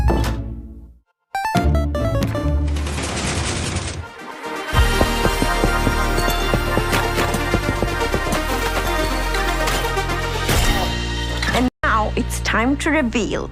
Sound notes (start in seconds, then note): 0.8 door slams; 4.7 machinery rattles; 7.7 blocks tap into place